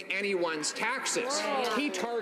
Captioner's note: some Applause